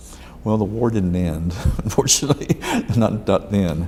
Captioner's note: laughs